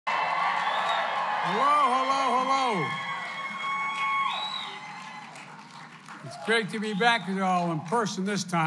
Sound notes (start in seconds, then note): 2.8 applause